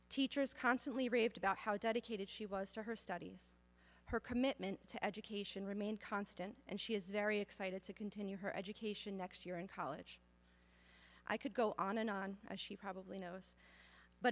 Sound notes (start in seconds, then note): none